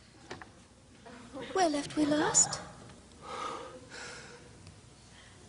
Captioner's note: sighs deeply